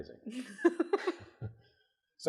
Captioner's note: laughs